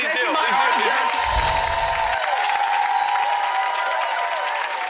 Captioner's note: crowd cheering